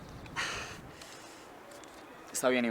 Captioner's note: sigh